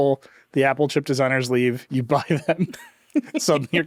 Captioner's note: chuckles